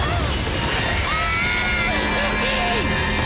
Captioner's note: screaming